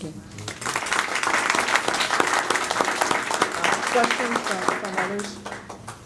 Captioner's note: audience clapping